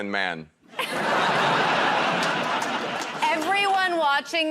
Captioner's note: laughter